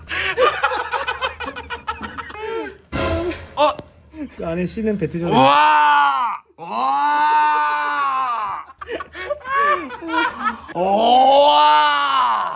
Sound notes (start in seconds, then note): 8.8 he suddenly lets out a roar